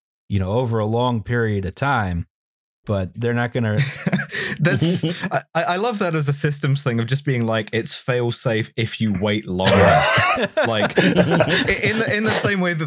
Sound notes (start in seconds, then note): 3.8 laughs; 9.7 laughter